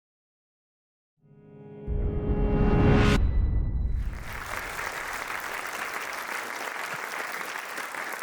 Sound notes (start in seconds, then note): 1.3 audio logo; 4.0 applause